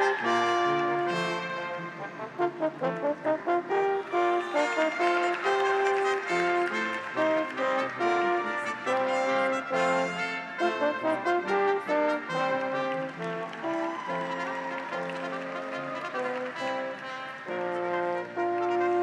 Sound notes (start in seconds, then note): 5.4 audience applauds; 5.4 graduates cheer; 13.9 audience applauds; 13.9 graduates cheer